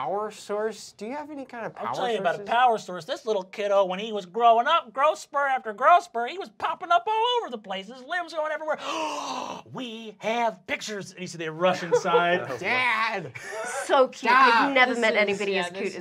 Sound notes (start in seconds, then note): 8.7 gasps